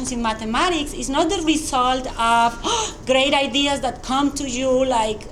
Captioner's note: gasps